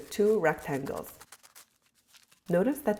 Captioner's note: sheets crumpling